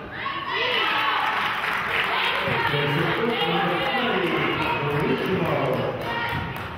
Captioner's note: clapping